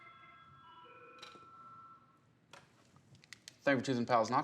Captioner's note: telephone ringing